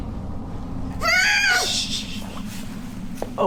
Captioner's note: woman screams